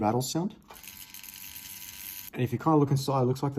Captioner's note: rattling